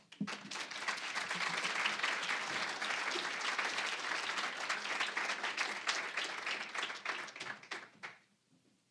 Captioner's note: applause